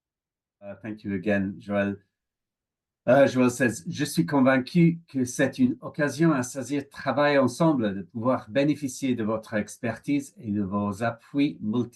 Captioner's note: French